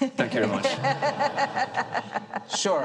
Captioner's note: and audience chuckles